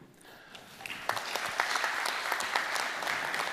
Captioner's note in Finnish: Applause